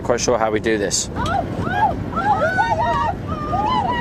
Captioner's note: excited shouting; laughing and squealing